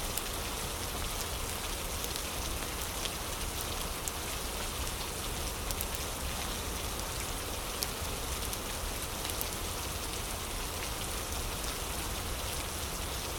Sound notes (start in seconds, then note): 0.0 fire crackling